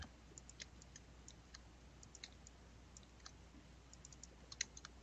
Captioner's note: mouse clicking